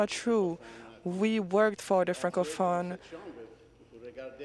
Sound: speaking French

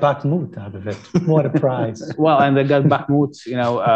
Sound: laughter

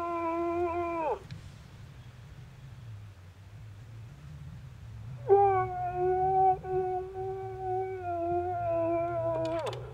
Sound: moose call sounds

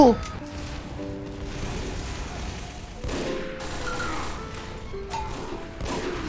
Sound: gentle piano music; guns firing

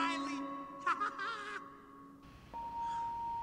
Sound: laughs

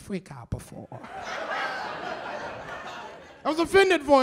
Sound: laughter

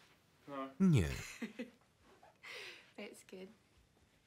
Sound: laughs loudly

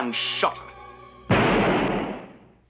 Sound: gunshot

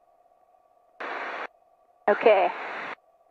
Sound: static

